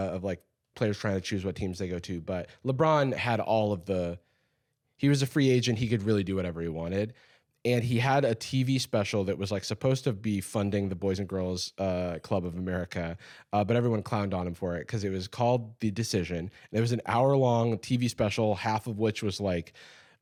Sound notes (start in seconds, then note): none